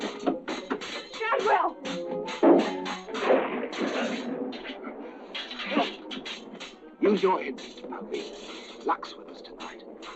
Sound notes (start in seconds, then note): 3.1 thunder rumbling; 5.2 grunting